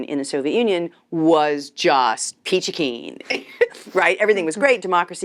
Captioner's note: chuckles